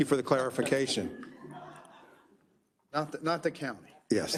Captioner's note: members laughs